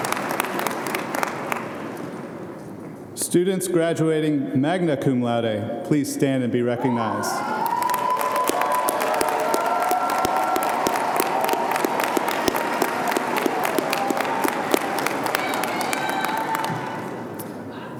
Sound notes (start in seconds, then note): 7.6 audience applauding